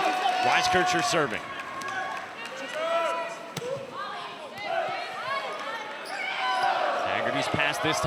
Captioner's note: cheers and applause